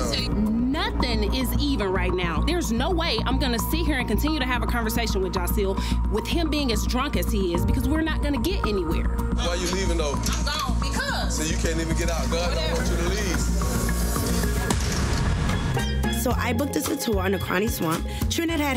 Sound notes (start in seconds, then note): 14.7 door slamming; 15.6 upbeat music